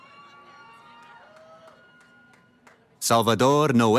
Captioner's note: cheering